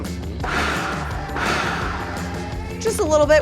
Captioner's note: food processor whirring